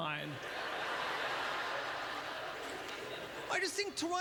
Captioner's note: audience laughter